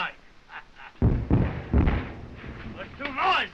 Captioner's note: explosions continue